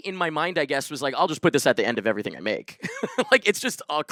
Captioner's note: laughs